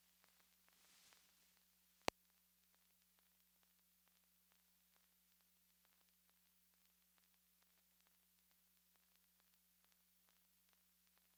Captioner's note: silent